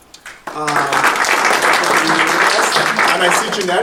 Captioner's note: attendees applauding